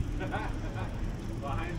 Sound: laughing

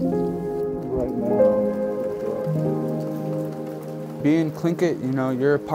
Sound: gentle music; rain tapping

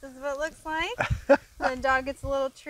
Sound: laughing

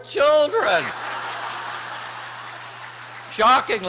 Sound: laughter

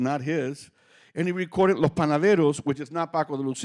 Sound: speaking Spanish

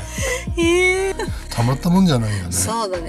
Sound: laughs

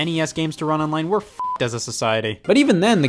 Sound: beep

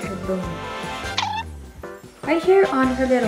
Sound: cartoony injection sound

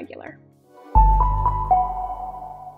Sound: logo chiming

